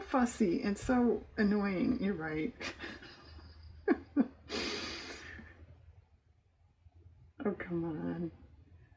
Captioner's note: laughs